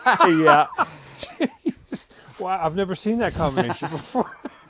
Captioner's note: laughter